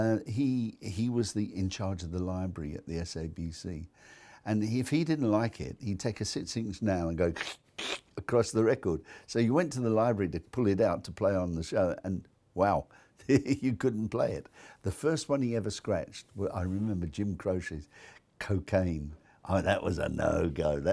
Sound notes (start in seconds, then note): 7.4 imitates scratching